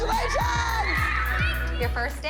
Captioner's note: laughter